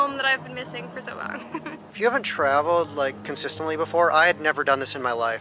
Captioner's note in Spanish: Risas